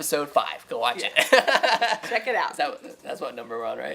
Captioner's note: laughing